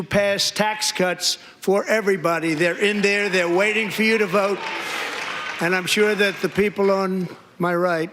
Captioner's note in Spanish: aplausos